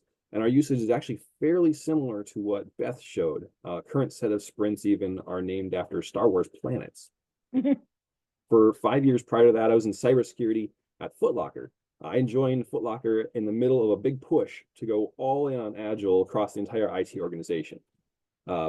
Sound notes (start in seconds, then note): 7.9 laughs